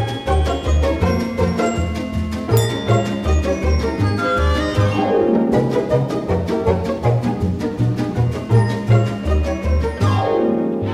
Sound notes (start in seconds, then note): 2.5 ding